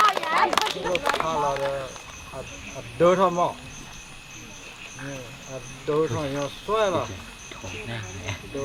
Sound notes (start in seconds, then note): 1.6 birds chirping; 1.6 foreign language; 3.8 insects chirping